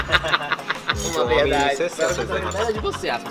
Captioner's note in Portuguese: risadas